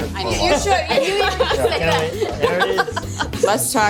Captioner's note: laughter